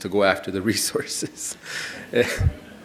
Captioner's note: audience laughing